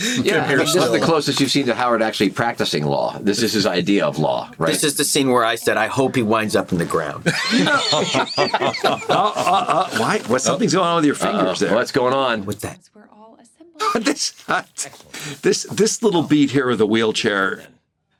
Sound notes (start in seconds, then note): 7.2 all laugh; 13.6 laughing